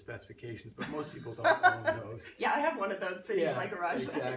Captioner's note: laughs